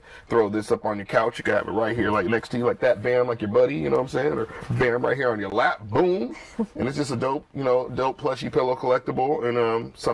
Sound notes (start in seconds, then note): 6.3 laughter